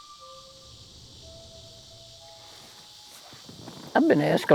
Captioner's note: insects chirping